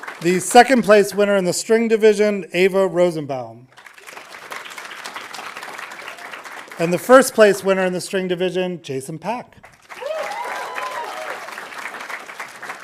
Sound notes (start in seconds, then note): 3.7 audience applauding; 9.6 audience applauding